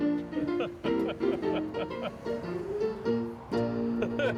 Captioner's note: lively piano music; laughing